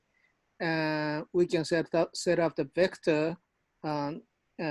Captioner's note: none